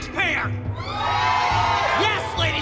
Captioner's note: cheers